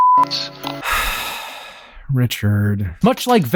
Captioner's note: sighs